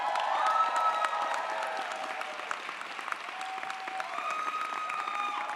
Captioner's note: audience applauds & cheers